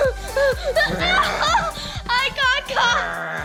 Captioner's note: growls